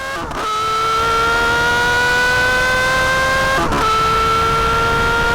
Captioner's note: engine intensely revving